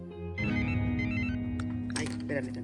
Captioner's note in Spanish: Suena el celular